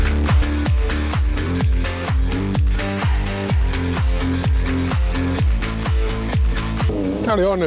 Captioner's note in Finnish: Aplodeja